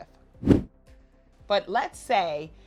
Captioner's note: air whooshes